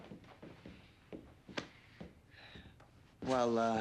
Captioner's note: footstep